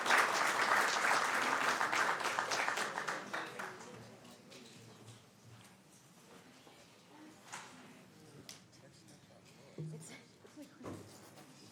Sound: applause

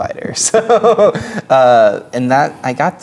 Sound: laughing

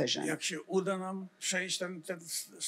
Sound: foreign language

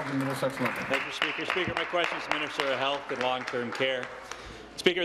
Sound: applause

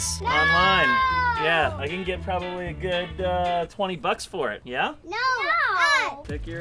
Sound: kids yelling in disagreement

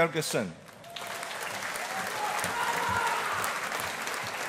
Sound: audience applauding

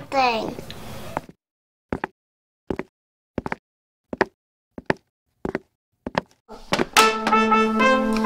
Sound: footsteps approaching

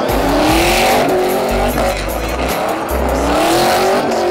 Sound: engine roaring

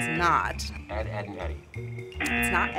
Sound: buzzer; buzzer

